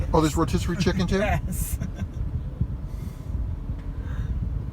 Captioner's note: laughs